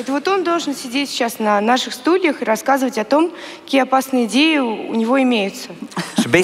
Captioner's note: foreign Language